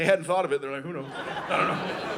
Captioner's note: audience laughing